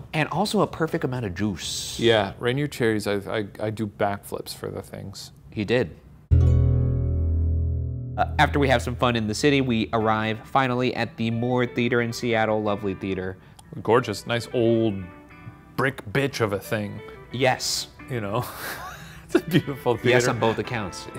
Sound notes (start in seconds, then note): 6.3 gentle guitar music; 18.4 laughs